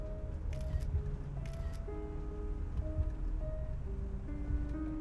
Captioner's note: phone camera clicks